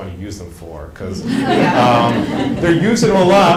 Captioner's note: laughing